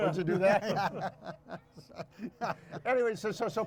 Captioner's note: all laughing